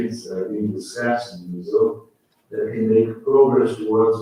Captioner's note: faintly speaking